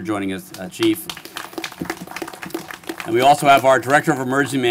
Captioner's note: applause